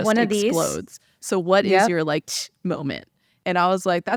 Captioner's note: air escaping